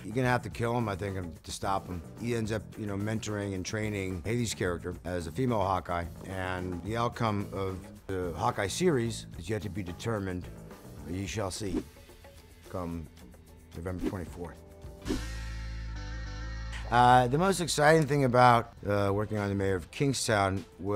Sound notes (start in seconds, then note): 15.0 image whooshing; 15.1 upbeat music